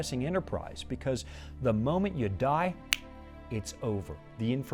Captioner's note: snapping fingers